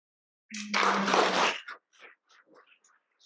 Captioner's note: applause